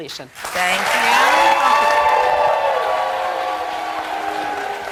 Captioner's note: crowd cheering